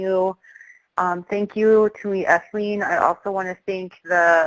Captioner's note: speaks native language